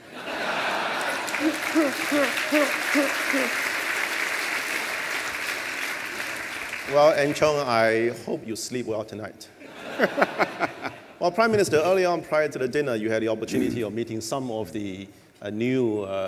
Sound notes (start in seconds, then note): 0.0 laughter and applause; 9.6 laughter